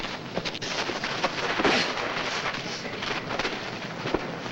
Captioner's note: men scuffling